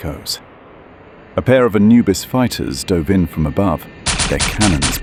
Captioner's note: lasers firing